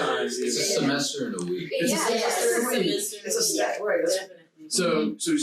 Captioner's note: group chattering